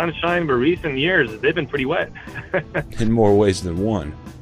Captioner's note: laughs